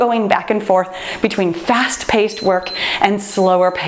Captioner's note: timer beeps